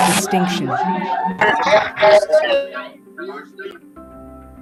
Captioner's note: cheering